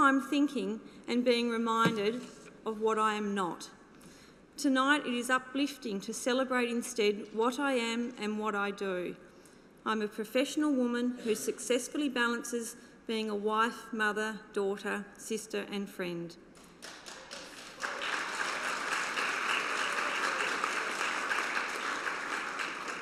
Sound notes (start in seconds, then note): 16.6 applause